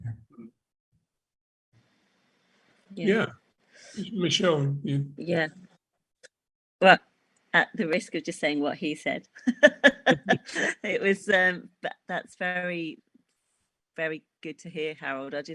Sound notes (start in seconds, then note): 9.5 laughs